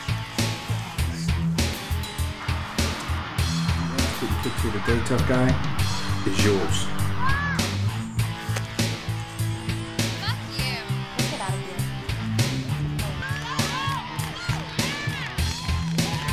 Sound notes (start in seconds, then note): 13.0 offscreen cheers & applause